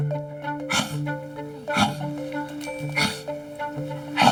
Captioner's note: huffs